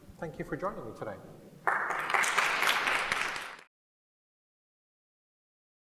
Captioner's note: applause